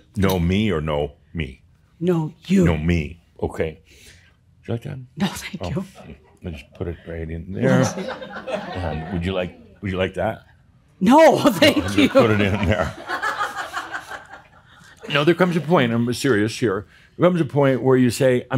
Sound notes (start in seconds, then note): 11.6 chuckling; 11.6 more chuckles; 14.4 laughter